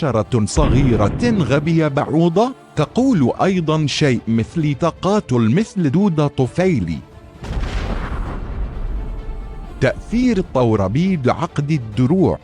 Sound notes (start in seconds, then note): 7.4 boom